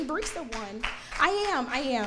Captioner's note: audience clapping